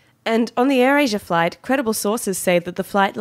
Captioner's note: none